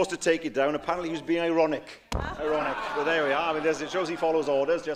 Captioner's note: laughter